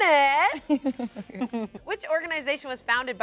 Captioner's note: laughs